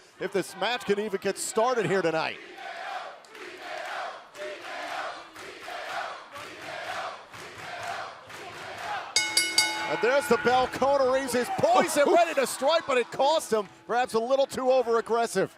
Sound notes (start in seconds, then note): 3.9 fans chanting; 9.1 bell ringing